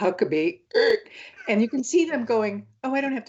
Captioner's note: gasps